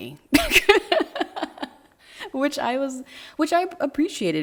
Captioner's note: laughing